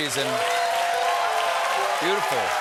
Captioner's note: cheers and applause